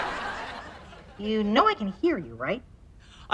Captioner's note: audience laughter; voiceover